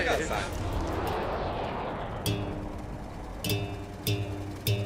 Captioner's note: airplane noise